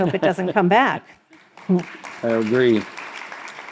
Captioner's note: crowd applauds